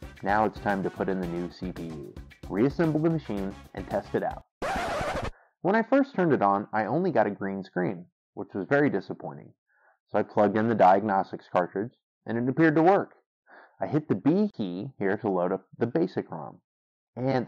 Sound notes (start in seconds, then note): 4.6 record scratch